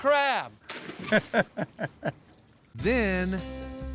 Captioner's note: laughter